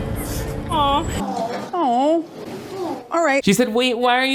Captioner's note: people awing